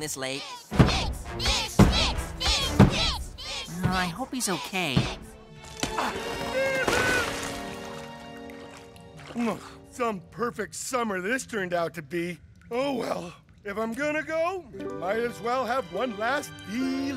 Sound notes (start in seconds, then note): 5.8 yelps